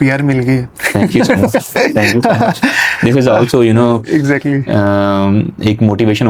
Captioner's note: laughs